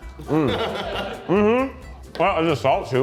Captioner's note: crew laughing